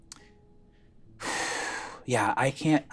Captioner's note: exhales deeply